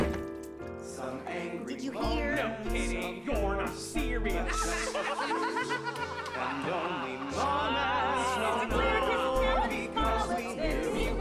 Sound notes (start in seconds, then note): 4.4 shushing; 4.5 laughter; 6.4 vocalizing